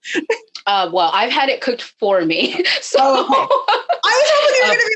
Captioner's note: laughing